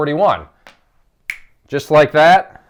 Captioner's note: snaps fingers